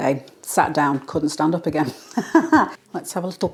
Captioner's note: laugh